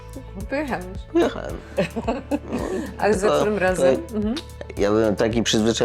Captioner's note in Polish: śmiech